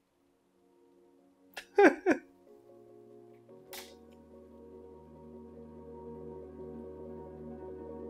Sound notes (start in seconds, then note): 1.6 cries